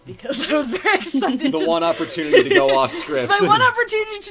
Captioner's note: laugh